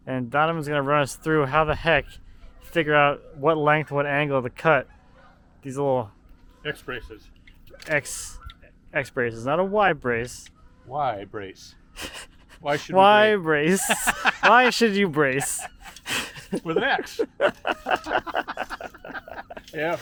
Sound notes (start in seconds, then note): 13.5 laughs; 18.2 host laughs